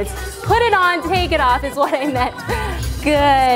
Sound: laughs

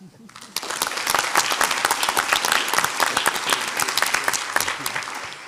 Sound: audience applauds

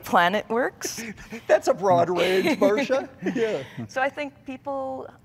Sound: laughing

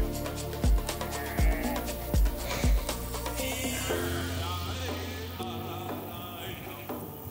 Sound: upbeat music; sheep bleating

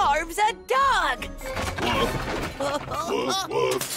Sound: items crashing; glass breaking

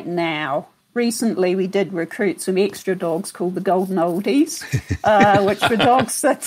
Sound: laughter

